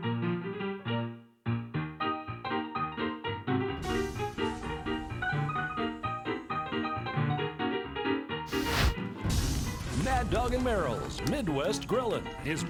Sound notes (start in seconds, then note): 0.2 ragtime music; 3.8 sizzling sound